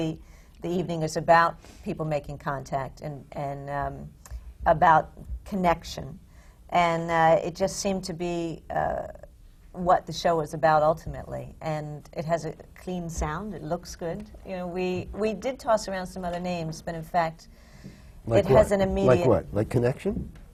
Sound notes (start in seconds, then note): none